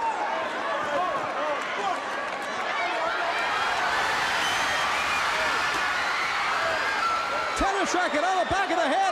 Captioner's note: crowd cheering